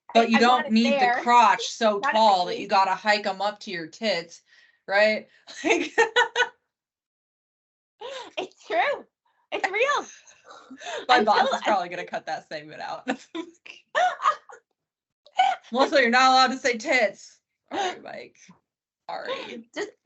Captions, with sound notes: Right? (laughing) - It's true! It's real! (both laughing) - My boss is probably gonna cut that segment out. (both laughing) "Melissa, you're not allowed to say tits." Alright, Mike. Sorry. (both laughing) - Just, bleep! (laughing)